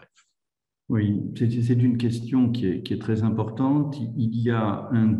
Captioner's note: speaks in foreign language